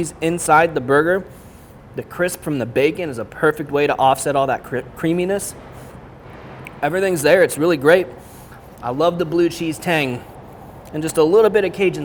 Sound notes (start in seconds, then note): none